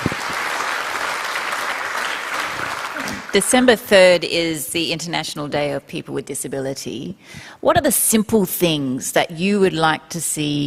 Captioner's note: applause